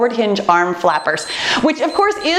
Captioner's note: timer beeps